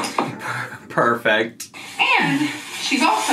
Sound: laughs

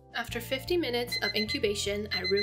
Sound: alarm rings

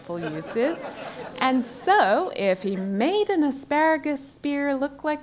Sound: laugh

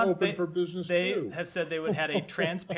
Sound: laughter

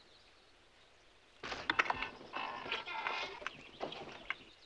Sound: birds chirping

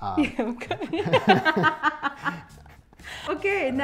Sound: laughing

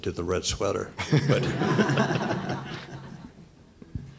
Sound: laughter

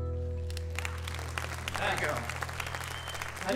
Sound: audience clapping

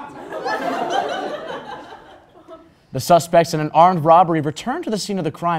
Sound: crowd Laugh

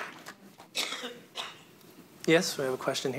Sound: audience applauds; person coughs

